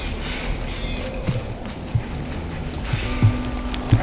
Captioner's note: sound of walking leaves